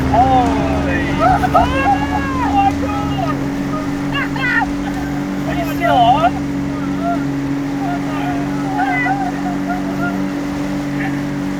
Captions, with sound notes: (screaming) (laughing) - Are you still on? - I don't know.